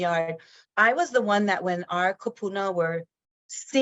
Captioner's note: speaks in foreign language